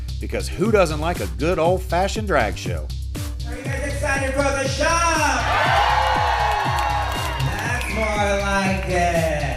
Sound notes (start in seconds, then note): 5.2 audience cheers